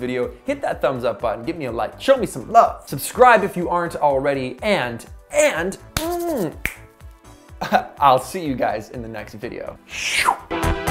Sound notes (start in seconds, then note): 5.9 snaps